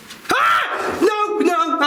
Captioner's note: screaming